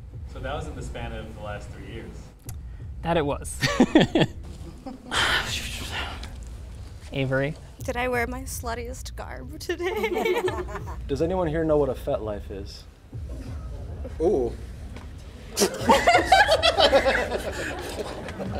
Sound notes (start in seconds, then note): 3.6 laughing; 4.9 sighs; 9.7 laughing; 15.5 group laughing